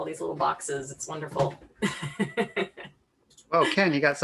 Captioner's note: laughs